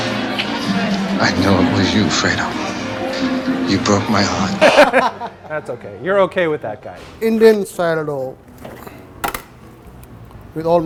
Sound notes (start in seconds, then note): 4.5 laughing